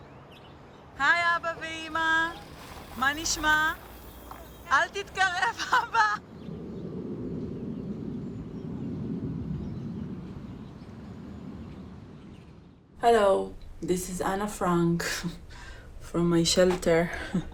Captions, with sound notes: [speaking in foreign language] Hello. This is Anna Frank from my shelter